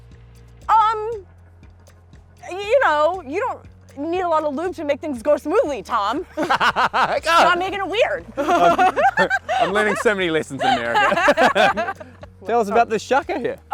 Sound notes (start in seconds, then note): 6.4 laughs; 11.0 both laughing